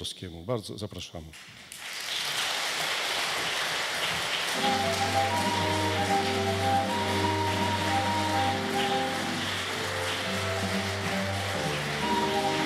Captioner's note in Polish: oklaski